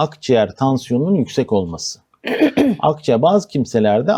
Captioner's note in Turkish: boğazını temizler